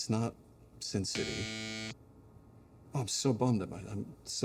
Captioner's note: cross buzzes